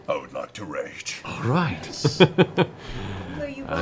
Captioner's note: laughs